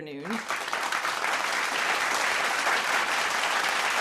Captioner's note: audience clapping